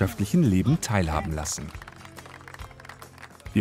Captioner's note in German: Applaus